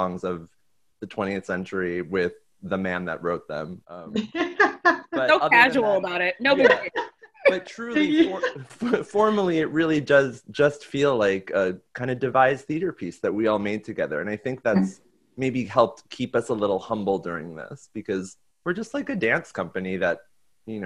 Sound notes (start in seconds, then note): 4.1 laughing